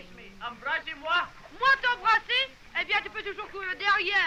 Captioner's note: continue conversing in french